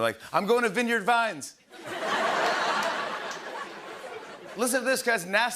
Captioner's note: laughter